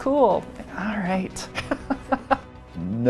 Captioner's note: laughs